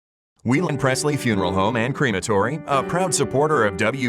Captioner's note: voiceover